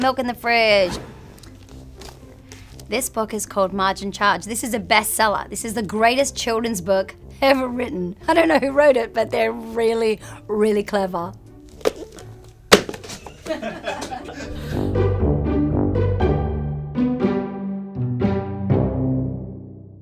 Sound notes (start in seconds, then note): 11.3 laugh